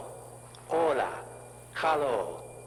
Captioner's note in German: spanisch